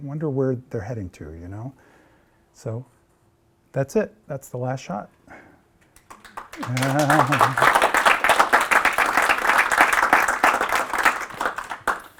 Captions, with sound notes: I wonder where they're heading to. So that's it. That's the last shot. [APPLAUSE]